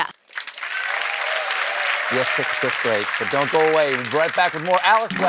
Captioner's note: applause